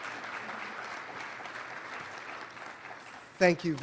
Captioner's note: applause